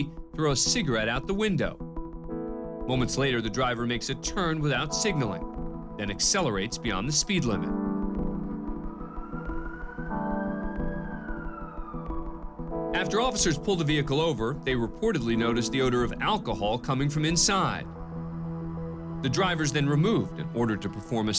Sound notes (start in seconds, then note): 8.2 siren wailing